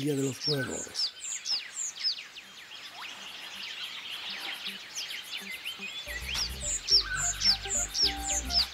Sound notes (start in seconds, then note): 0.0 birds chirping; 7.8 upbeat music background